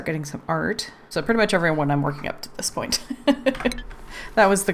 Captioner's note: laughs